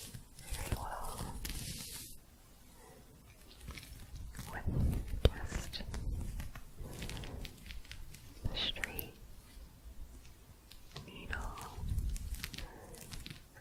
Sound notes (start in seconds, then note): 1.6 gentle scratching